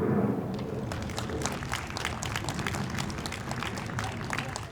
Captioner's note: audience applauds